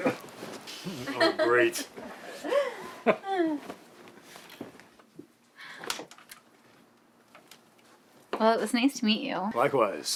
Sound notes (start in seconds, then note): 0.9 laughter; 5.2 door clicks